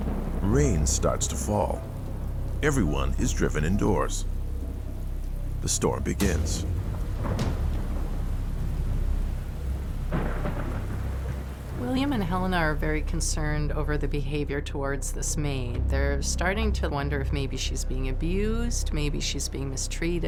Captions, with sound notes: Everyone is driven indoors. The storm begins. (thunder rumbling) (rain pattering) - William and Helena are very concerned over the behavior towards this maid. They're starting to wonder if maybe she's being abused, maybe she's being mistreated. She could even be here against her will.